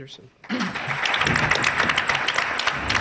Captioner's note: applause